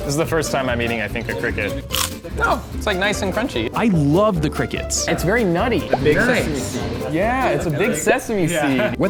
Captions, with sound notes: This is the first time I'm eating, I think, a cricket. (cricket crunches) Oh, it's nice and crunchy. I loved the crickets. It's very nutty. - A big sesame seed. - Yeah, it's a big sesame seed.